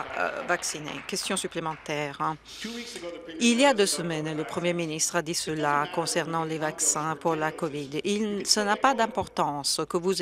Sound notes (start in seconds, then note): 2.2 some Applause